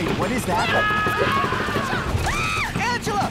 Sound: people screaming; screams

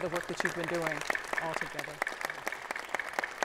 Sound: applause

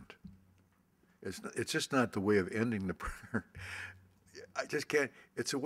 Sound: laughs

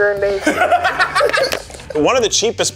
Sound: group laughs

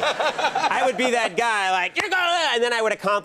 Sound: angry gibberish

